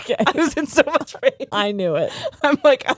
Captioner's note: both laughing